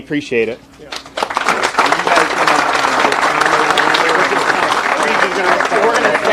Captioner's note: people applauding